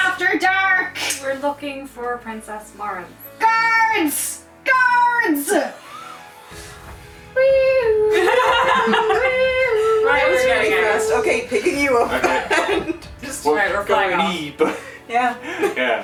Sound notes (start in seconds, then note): 7.4 whee-oo, whee-oo, whee-oo; 8.1 laughter